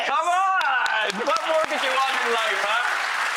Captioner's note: audience clapping